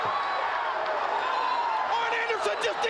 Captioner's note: crowd chatter